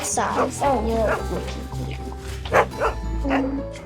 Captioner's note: dog barking